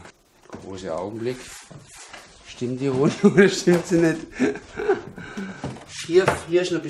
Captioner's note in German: lacht